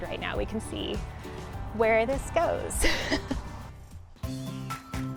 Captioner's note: chuckles